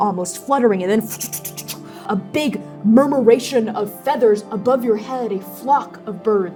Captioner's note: fluttering